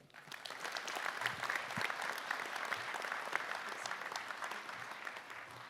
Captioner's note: applause